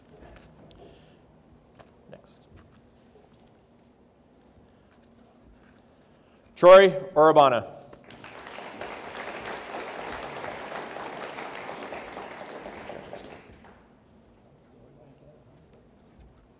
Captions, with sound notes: Next. Troy Orabona. (audience applauds) Congratulations.